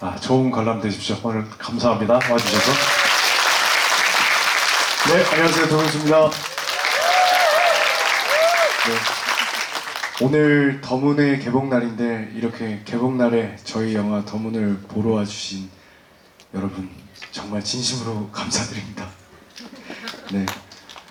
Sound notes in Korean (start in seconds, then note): 8.6 박수